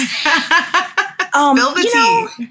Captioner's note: laughs